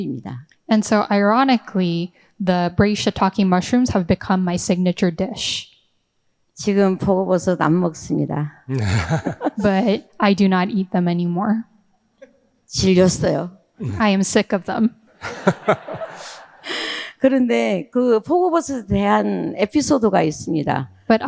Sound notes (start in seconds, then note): 6.7 speaking in foreign language; 8.7 all laughing; 12.8 speaking in foreign language; 15.2 all laughing; 17.3 speaking in foreign language